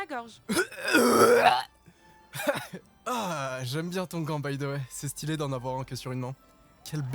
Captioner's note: chokes